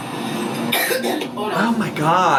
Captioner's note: coughs